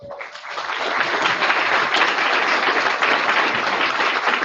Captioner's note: audience applauding